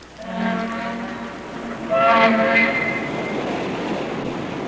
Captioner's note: steamboat horn